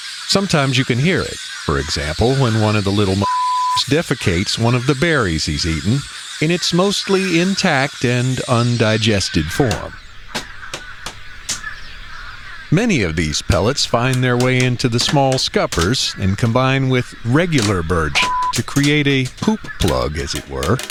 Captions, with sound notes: Sometimes you can hear it. For example, when one of the little m-----------s defecates one of the berries he's eaten, in its mostly intact and undigested form. [SFX: "Bird pellets"] Many of these pellets find their way into the small scuppers and combine with regular bird shit to create a "poop plug," as it were...